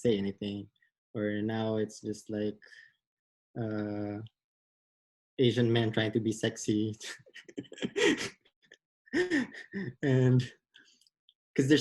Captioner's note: laughs